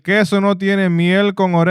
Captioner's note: non-english Speech